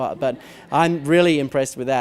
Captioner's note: laughter